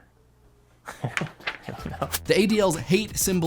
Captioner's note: laughs